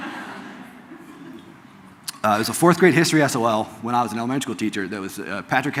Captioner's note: audience laughs